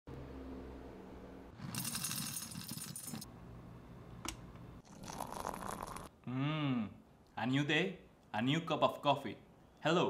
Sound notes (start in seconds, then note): 1.6 coffee beans clink; 4.8 coffee trickles